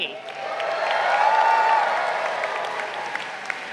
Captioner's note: crowd cheering